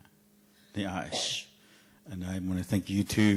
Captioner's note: speaking in Cheyenne language